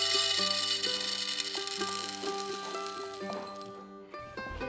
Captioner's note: grains fall